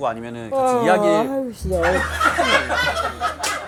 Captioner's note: yawn